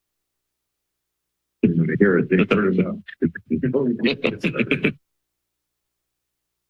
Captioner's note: background conversations only